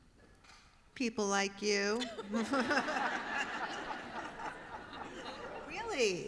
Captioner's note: laughter